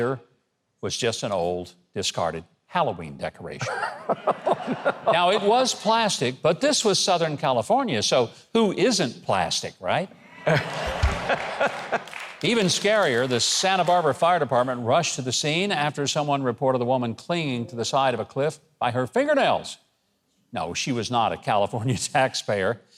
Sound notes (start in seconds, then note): 3.6 audience laugh; 10.1 audience laugh and clap